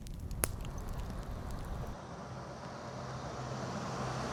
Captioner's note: faint traffic